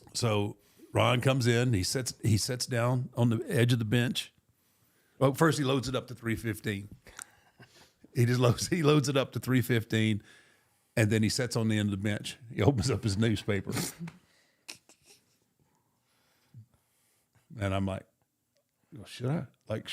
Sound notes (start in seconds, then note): 14.7 JBL chuckles